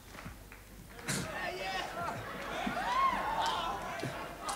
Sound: chuckles

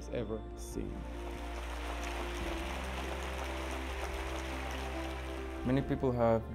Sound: applause

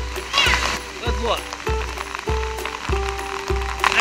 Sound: voiceover

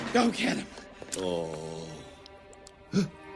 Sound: groans; gasp

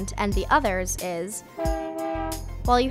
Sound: train honking

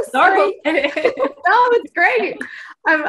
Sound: laugh

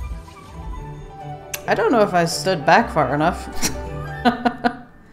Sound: laughs

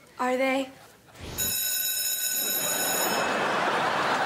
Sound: bell ringing

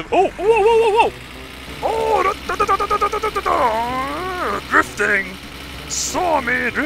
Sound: imitates car engine

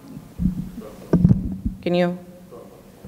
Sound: thumps mic

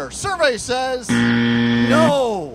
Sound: buzzer

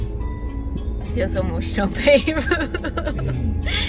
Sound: tearful laughing

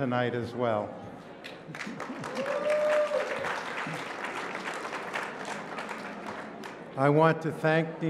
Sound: applause

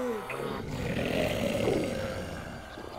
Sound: growling

